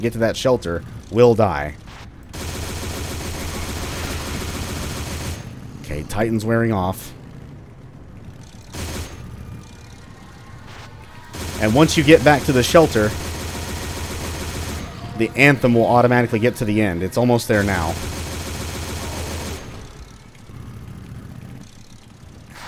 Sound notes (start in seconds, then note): 2.3 30 Cal continues; 8.7 pew pew